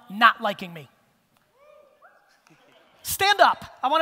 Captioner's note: cheering